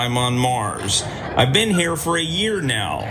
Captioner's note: laugh